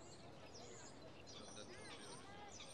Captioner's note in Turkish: Sokak ortam sesi